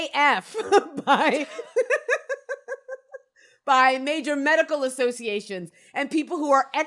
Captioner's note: giggles